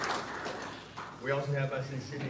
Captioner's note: applause